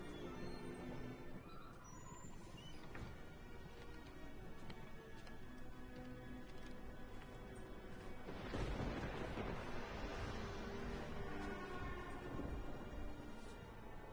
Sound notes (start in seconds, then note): 8.2 thunder crackles